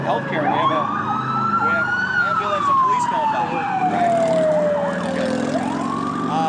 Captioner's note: sirens overpowering speech